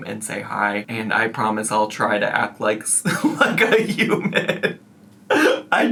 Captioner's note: laughs